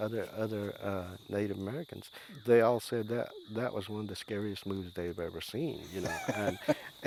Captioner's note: laughs